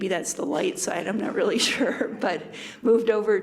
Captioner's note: chuckles